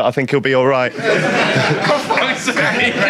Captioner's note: audience laughs